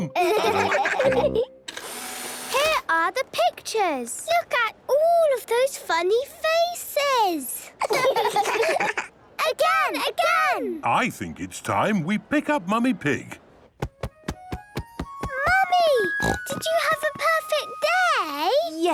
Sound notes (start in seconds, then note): 1.7 whirring; 7.7 children laughing